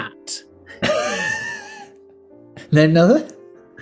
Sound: sniggering

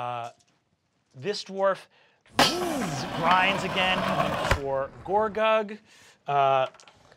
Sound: whooshes

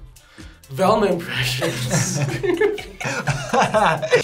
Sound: both laugh

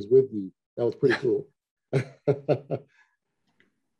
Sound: laughs

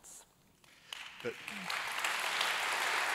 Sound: applause

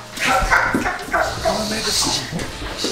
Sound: laughing

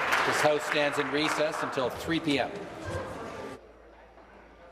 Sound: applause

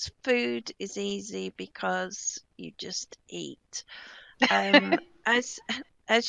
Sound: laughing

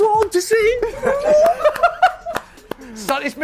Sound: laughter

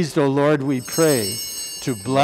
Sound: bellringing

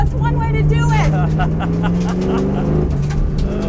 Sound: laughing

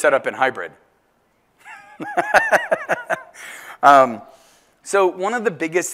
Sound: laugh

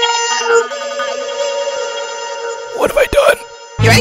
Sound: echoing

